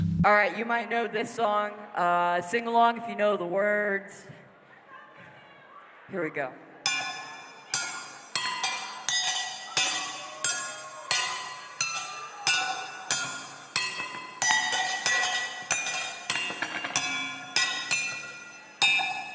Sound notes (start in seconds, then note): 6.8 sound of clanging metal